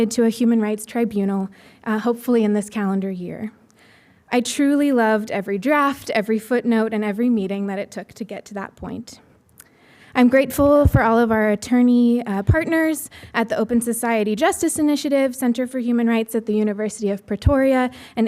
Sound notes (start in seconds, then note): none